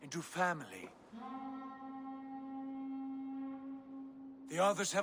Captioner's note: horn